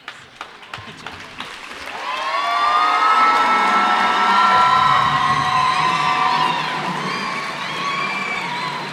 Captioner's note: cheers and applause